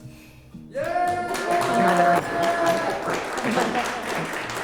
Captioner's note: applauding